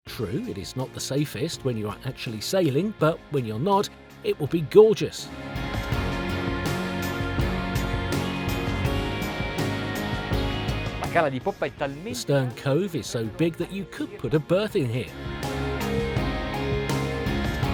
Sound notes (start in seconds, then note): 5.9 dramatic upbeat music; 11.2 speaks Italian